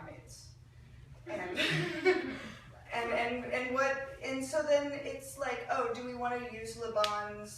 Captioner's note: laughing